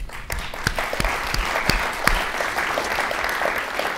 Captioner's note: all applauding